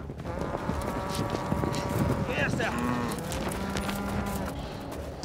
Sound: cow mooing

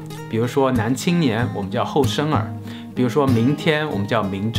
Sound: in Mandarin

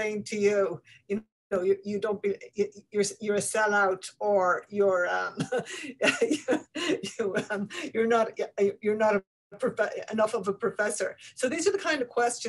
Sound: chuckles

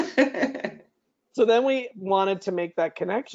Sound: chuckes

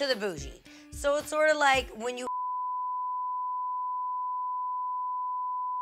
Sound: beep

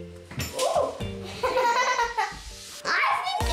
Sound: giggling

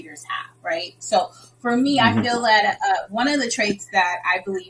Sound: laughing

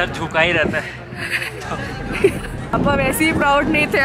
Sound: giggling

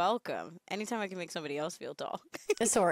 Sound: laughing

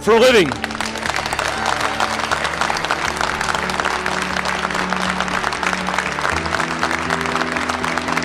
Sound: clapping

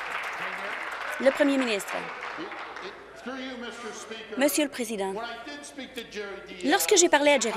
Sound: applause

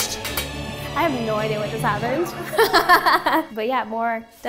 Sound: laughs

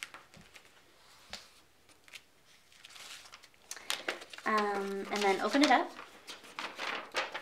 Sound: paper rustling

